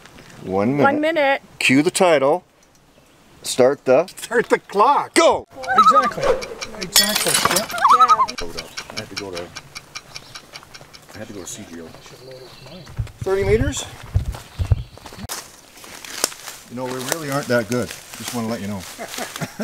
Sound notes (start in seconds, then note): 5.5 loon call; 10.8 chatter; 18.9 chuckles